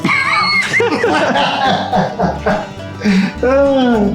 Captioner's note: laughing